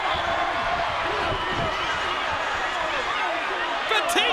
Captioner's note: all chattering